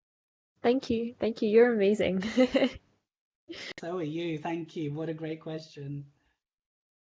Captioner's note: laughing